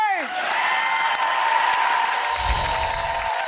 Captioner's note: applause